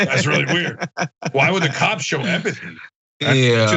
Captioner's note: laugh